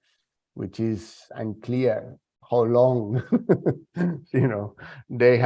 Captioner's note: chuckles